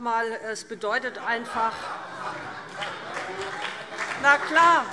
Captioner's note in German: Heiterkeit und Beifall BÜNDNIS 90/DIE GRÜNEN